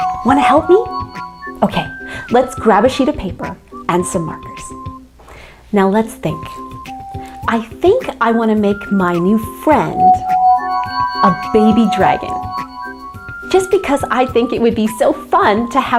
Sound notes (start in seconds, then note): 10.1 ringing